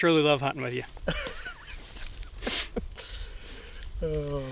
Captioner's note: chuckles